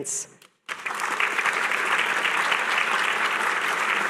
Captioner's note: applause